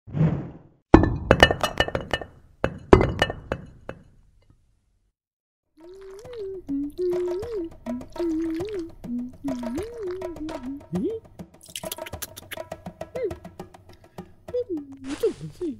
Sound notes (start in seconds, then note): 1.0 stones clanking; 5.8 soup splashing; 5.8 humming; 11.2 gentle drums